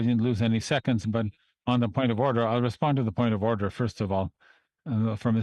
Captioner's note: speaking French